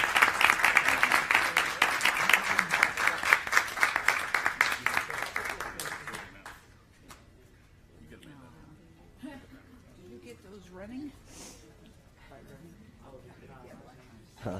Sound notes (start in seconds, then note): 3.1 applause